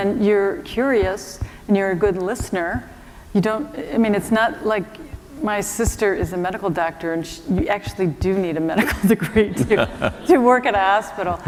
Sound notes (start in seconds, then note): 8.8 laughter